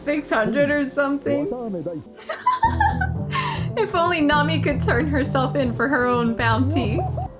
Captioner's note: laughs